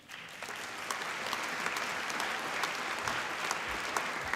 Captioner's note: applause